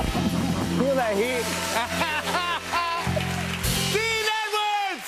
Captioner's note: laughing